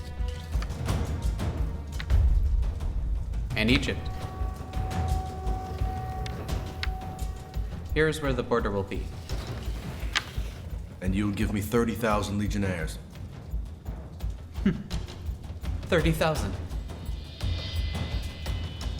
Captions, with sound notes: and Egypt. Here is where the border will be. - And you will give me 30,000 legionaries. - (chuckles) 30,000?